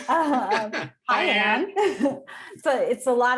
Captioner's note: chuckling